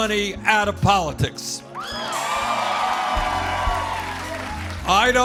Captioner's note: cheers and applause